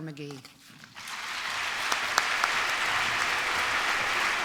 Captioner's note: applause